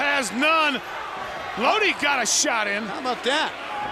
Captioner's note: crowd cheering